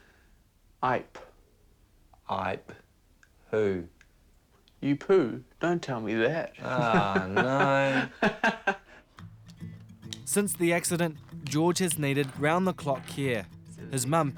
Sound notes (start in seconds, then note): 6.6 laughs